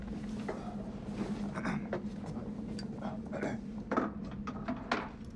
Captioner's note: Sinclair's throat clears